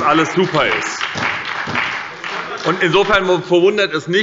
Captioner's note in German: Beifall bei der SPD und der FPD